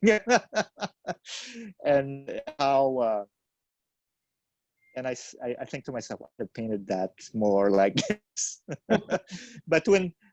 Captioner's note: laughs